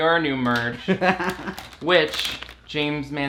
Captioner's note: laughs